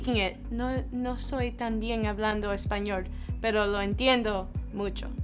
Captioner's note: speaking in foreign language